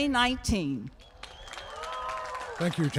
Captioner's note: applause